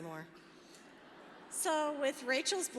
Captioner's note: laughter